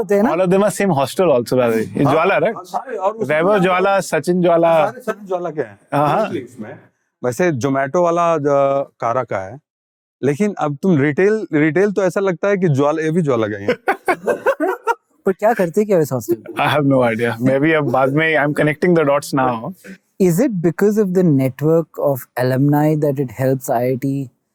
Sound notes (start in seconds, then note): 6.0 speaking in Hindi